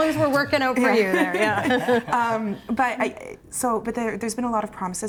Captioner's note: laughter